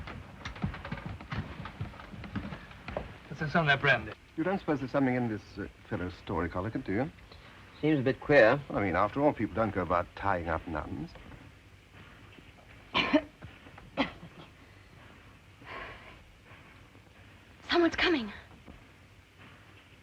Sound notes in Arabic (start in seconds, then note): 13.9 سعال; 15.1 تنهد